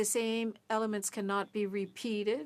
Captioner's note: speaking French